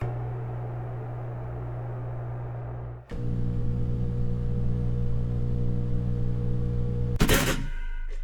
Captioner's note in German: Elektroventilatoreräusch; Toastergeräusch